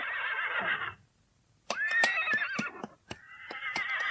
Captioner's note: SFX: horses whinnying; SFX: trotting; SFX: horses whinnying